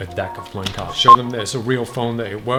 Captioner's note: beeping